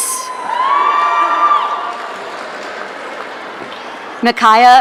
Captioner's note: audience cheering